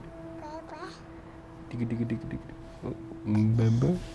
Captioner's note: baby noises